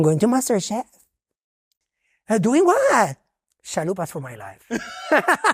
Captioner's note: friends laughing